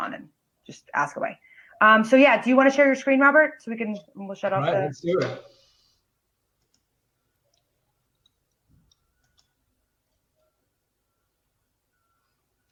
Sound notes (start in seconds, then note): 5.9 mouse clicks